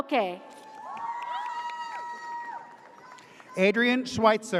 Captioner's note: audience cheers